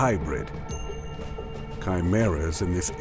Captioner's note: bell rings